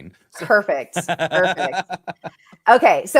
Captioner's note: laughter